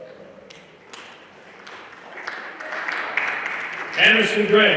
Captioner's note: everyone applauding